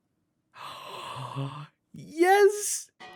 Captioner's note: gasps